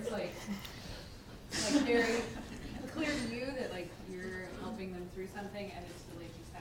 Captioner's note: laugh